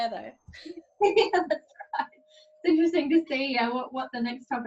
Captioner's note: laughs